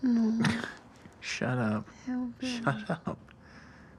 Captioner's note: chuckles